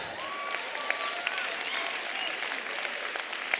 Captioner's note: applause